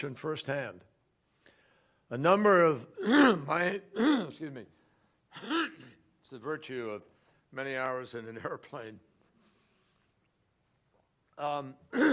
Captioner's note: coughing